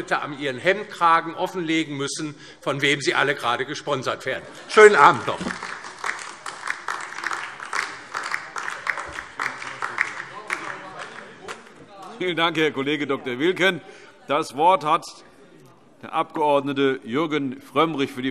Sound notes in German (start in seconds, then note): 4.5 Heiterkeit und Beifall DIE LINKE